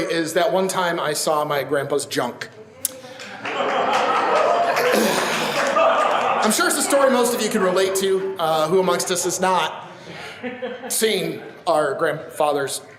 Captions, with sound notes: is That One Time I Saw My Grandpa's Junk. (audience laughs and applauds) I'm sure it's a story most of you can relate to. Who amongst us has not seen our grandfather's junk?